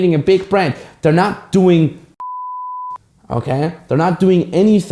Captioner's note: beep